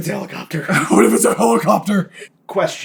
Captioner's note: laughing, deep